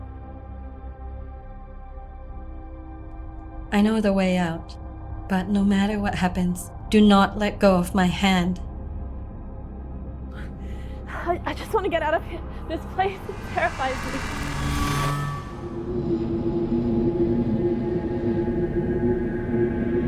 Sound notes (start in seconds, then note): 14.5 warping sounds; 18.3 eerie sounds